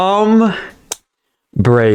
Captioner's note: presses hands together for noise